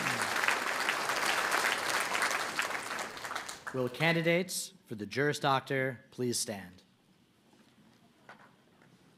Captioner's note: applause